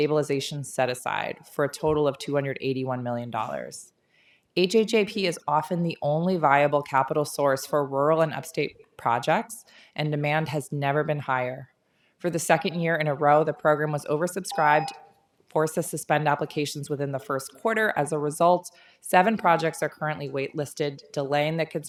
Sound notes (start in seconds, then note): 14.5 tone